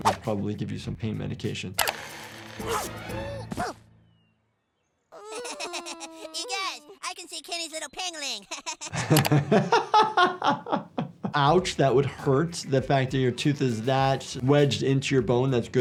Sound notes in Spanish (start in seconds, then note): 2.1 máquina zumbando; 3.6 Kenny da un golpe sordo; 5.1 Kenny llorando; 5.2 Cartman riendo; 8.4 El médico de urgencias se ríe; 9.1 riendo